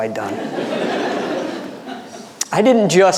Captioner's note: audience laughing